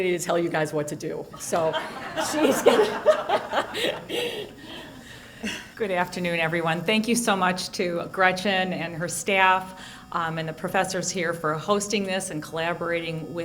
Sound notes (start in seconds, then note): 3.0 laughter